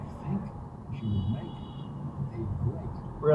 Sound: Prius beeps from being cut off

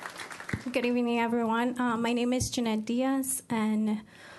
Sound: applause

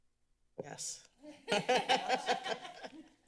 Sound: laughs

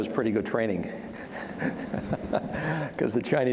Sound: laughing

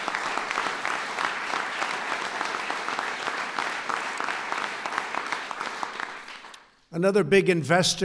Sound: applause

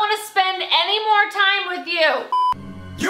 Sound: drinking

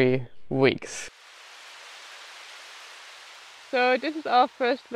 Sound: rain pouring

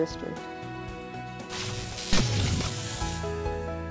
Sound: electric zap

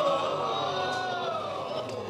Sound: audience groaning

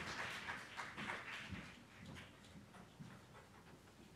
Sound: applause

